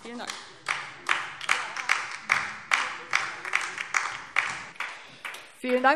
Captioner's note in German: Beifall DIE LINKE